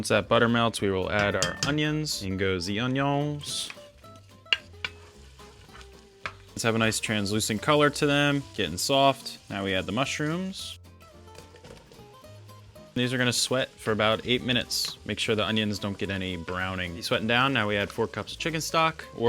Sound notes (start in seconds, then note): 4.0 spoon scraping